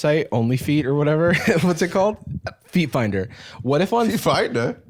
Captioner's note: laughs